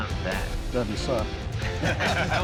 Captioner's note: laughter